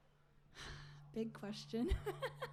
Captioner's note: laughs